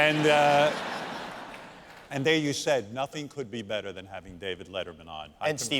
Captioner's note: laughter